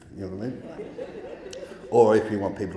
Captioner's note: audience laughing